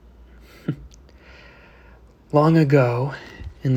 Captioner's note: Elias chuckles